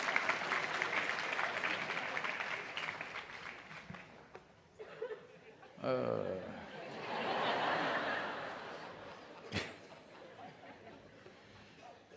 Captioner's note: laughter/Applause